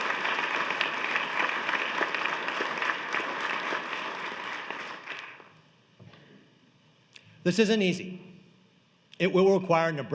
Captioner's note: applause